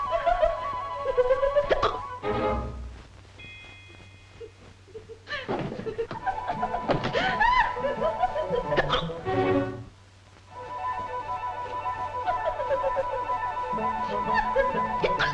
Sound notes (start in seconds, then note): 0.0 Patsy laughing; 0.2 upbeat music; 1.7 Patsy hiccups; 1.9 dramatic music; 3.9 gentle music; 4.8 Patsy laughing; 6.4 upbeat music; 7.7 Patsy laughing; 8.8 Patsy hiccups; 10.6 dramatic music; 11.1 upbeat music; 11.7 Patsy laughing